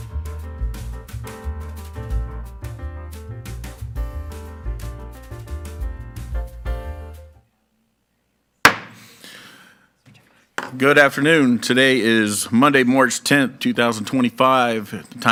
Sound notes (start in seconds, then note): 0.0 bright jazz music continues; 8.6 gavel bangs